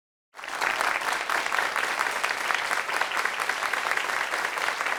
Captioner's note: audience applauding